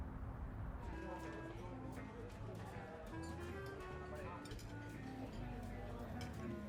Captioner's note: distant traffic humming; patrons chattering over pleasant easy listening music